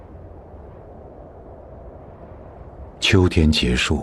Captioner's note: wind blowing